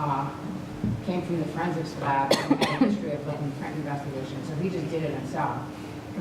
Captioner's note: cough